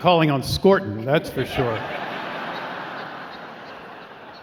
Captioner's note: laughing